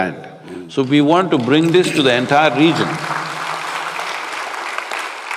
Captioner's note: applause